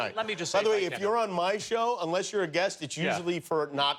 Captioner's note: laughter